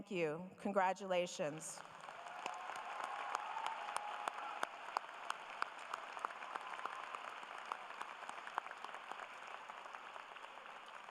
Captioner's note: applause